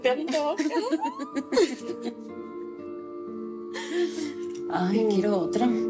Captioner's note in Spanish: Risas